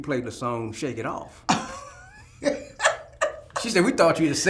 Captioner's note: both laughing